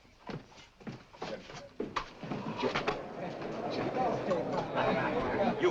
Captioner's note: general conversation